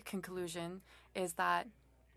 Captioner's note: speaking French